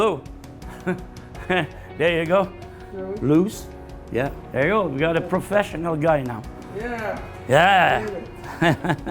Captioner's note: laugh; laughing